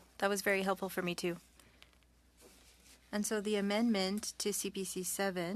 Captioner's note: speaking French